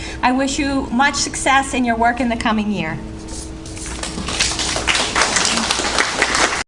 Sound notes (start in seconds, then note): 3.9 applause